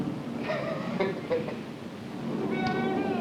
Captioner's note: laughs